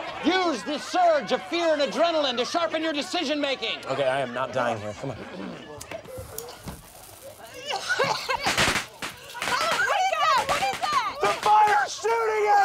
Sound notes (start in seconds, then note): 5.8 fireworks popping; 5.9 coughing